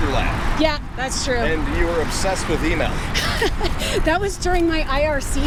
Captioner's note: laughter